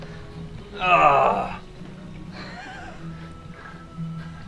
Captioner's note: groaning